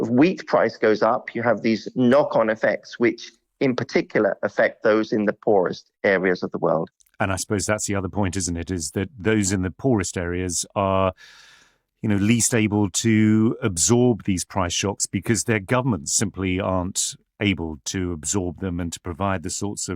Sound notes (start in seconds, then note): none